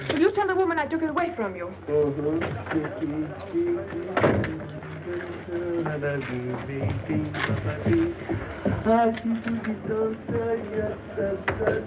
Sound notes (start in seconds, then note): 4.6 humming